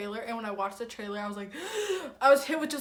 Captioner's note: deep inhale